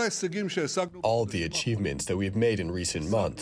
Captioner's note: through translator